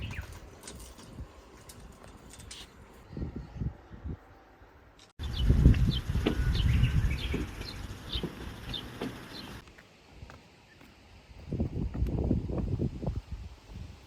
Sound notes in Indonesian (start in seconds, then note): 5.2 tweet